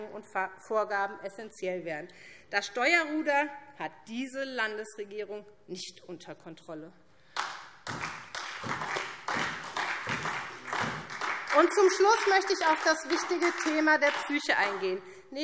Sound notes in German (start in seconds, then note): 7.3 Beifall SPD